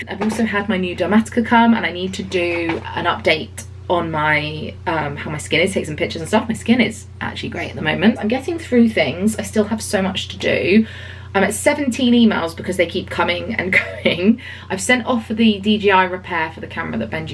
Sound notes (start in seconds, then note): none